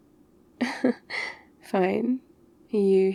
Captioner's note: laughs